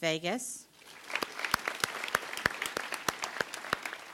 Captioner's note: applause